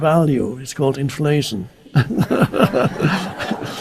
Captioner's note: audience laughing; laughs